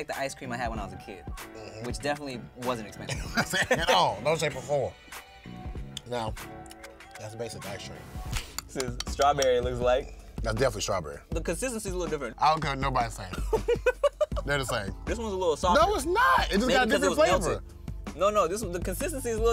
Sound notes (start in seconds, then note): 11.6 laughs